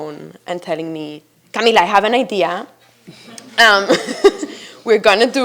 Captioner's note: chuckles